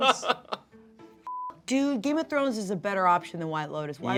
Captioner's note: beep